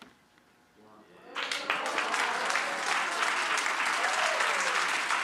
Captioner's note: audience applauding